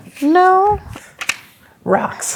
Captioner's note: papers rustling